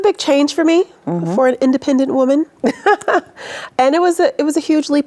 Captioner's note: laughs